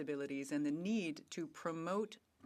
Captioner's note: speaking French